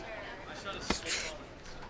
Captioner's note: grunts